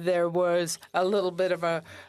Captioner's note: speaking French